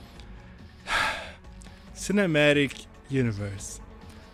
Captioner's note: sigh